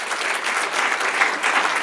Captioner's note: applause